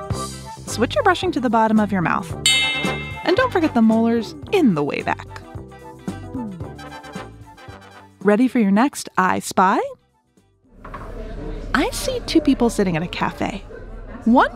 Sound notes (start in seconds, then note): 2.4 switch bell; 9.8 cafe ambient sounds